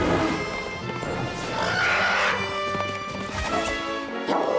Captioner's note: roars